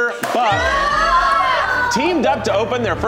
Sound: contestants cheer

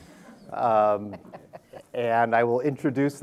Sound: audience laughter

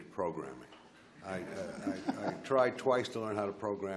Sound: laughs

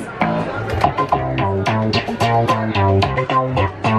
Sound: electronic buttons

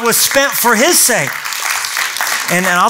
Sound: applause

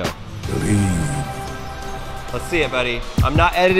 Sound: voiceover

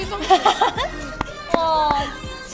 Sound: laughing

